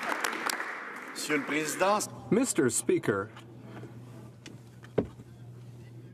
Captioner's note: some Applause